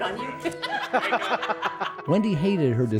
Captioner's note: laughing